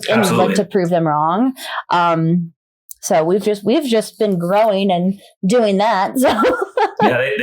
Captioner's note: laughs